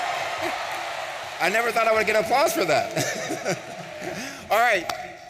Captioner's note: laughs